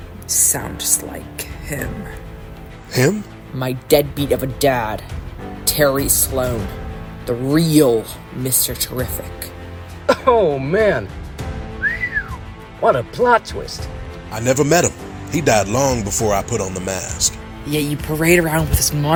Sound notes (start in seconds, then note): 11.8 whistle